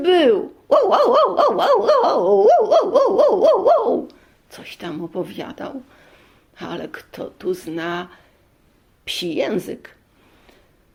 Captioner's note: dog barking